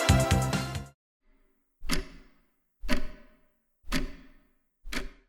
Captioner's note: clock Ticking